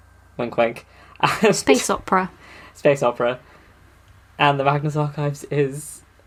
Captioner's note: laughing